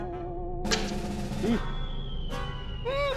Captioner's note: snap; object falling